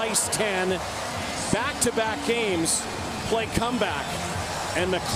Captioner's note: cheering